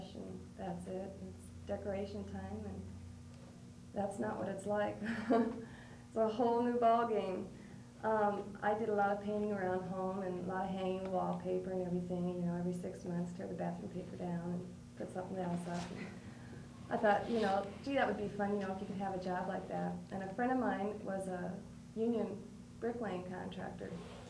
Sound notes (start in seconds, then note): 5.1 laughs